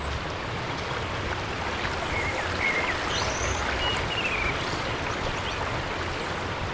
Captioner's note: birds chirping/water flowing